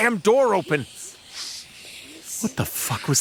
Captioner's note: ghostly voices